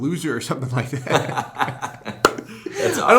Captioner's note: laughter